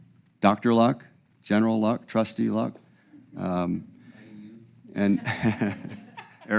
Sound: laugh

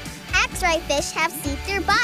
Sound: none

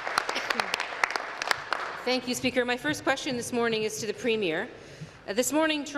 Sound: applause

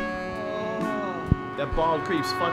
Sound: pleasured moan

